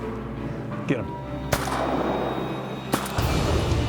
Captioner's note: gun shots